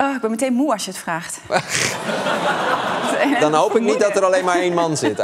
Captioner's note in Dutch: gelach